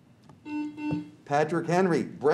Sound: buzzer beeps

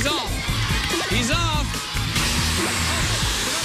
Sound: alarm sounds

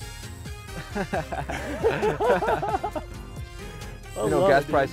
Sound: both laughing

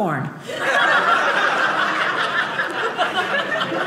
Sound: audience laughing

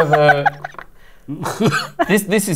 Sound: coughs

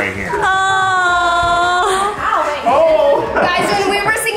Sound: laughs

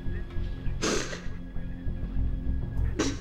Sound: sniff

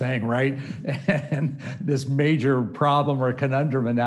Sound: chuckling

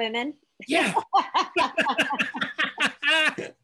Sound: laughing

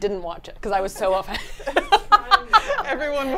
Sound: laughs

